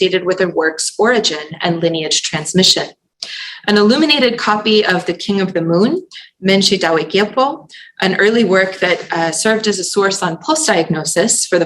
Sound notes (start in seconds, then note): 6.7 non-english